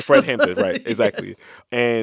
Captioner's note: laughter